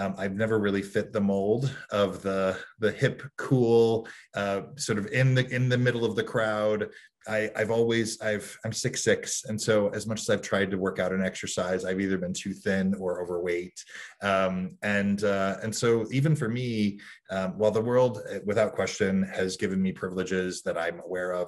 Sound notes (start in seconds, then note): none